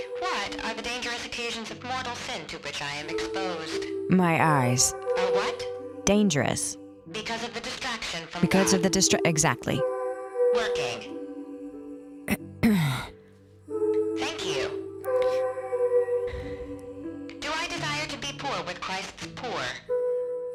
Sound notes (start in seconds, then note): 12.6 clears throat